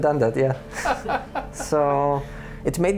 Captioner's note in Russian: смех